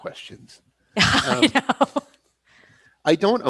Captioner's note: laughs